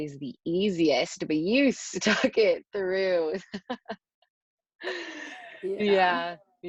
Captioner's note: chuckles